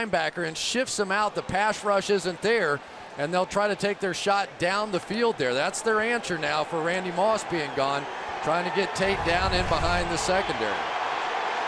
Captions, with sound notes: That's their answer now for Randy Moss being gone. Trying to get Tate down in behind the secondary. [crowd cheering]